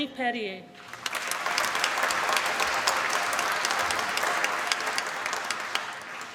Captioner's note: applause